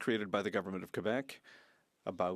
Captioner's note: speaking French